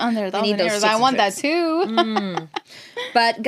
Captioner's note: laughs